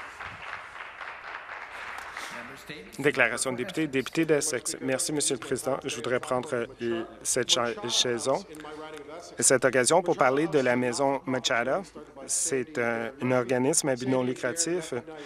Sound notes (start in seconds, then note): 3.3 some Applause